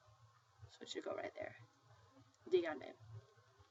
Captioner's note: spanish